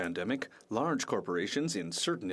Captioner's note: speaking FRENCH